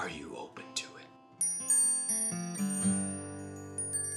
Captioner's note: bells chiming